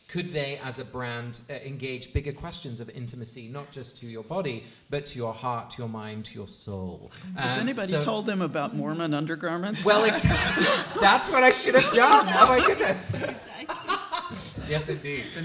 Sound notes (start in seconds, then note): 9.7 laughter; 13.4 laughing